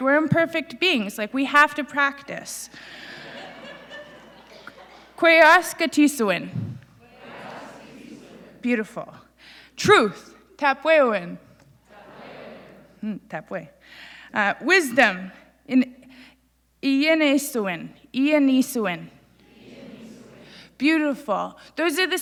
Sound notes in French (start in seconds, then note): 2.9 Rires; 7.0 Le public répète; 13.2 Le public répète; 19.4 Le public répète